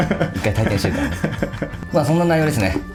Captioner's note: laughs